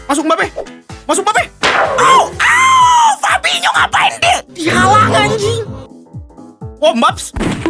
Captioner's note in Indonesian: berteriak